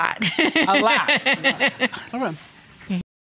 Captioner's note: laughing